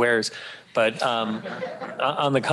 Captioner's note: laughter